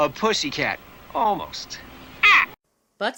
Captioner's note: caws